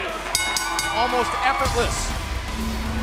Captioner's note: bell